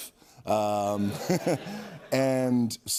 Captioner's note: laughter